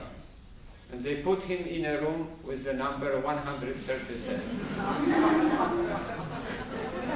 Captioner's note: laughter